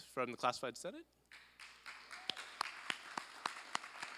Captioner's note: applause